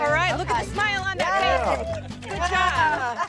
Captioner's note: group cheering